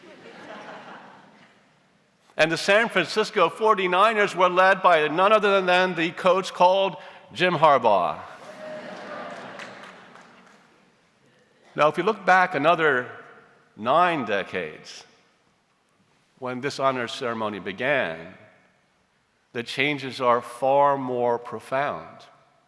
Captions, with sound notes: (audience laughs) And the San Francisco 49ers were led by none other than the coach called Jim Harbaugh. (audience cheers) Now, if you look back another nine decades, when this honors ceremony began, the changes are far more profound.